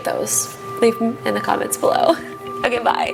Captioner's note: giggles